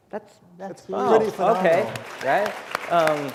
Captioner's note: applause